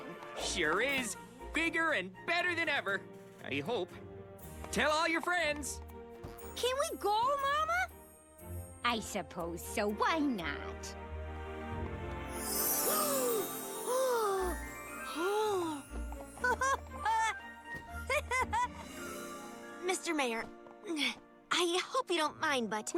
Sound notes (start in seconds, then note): 12.7 gasps; 16.3 laughs